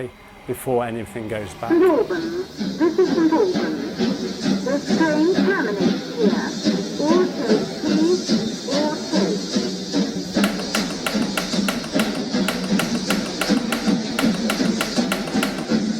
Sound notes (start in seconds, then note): 10.4 the sound of steam engine departing